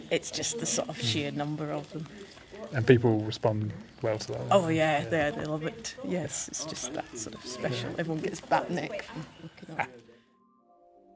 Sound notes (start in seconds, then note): 9.5 electronic music fades in; 9.6 laughs